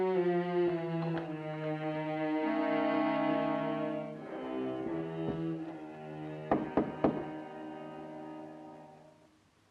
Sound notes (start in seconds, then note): 6.4 door knocks